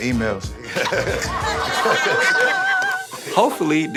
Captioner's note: crowd laughing